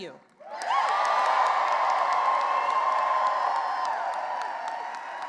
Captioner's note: cheering and applause